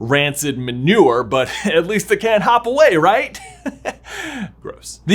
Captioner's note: chuckles